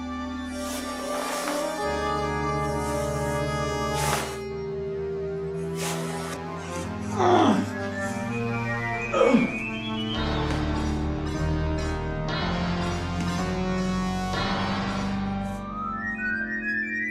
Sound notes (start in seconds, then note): 7.1 doctor groaning